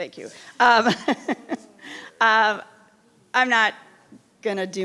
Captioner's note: laughing